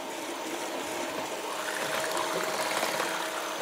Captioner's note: whirring